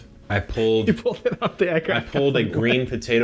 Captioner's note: laughs